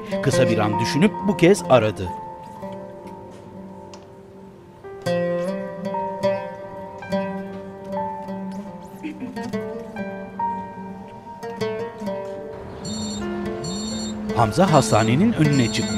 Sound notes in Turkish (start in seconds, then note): 7.7 Müzik - Duygusal; 12.8 Telefon zili sesi